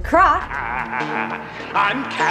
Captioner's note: laughs